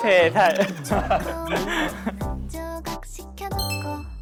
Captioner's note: hehehe